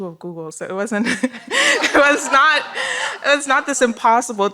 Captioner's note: laughter